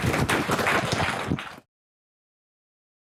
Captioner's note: applauding